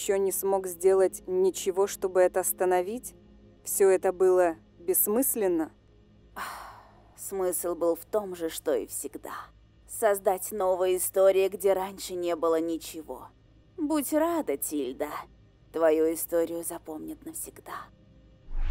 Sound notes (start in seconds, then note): 6.4 sigh